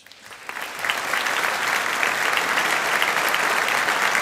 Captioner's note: audience applauding